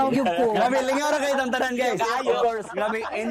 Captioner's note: laughing